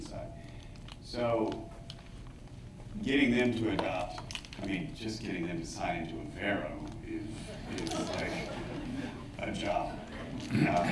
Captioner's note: laughter